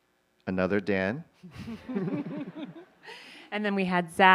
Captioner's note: light laughter